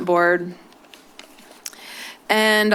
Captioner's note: rustling